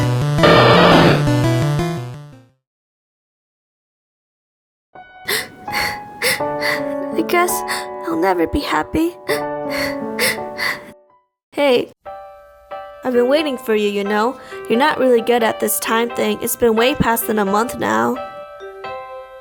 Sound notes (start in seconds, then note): 5.2 sobs; 9.2 more sobs